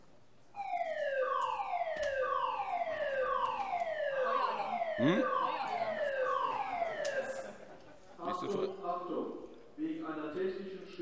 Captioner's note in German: Alarmdurchsage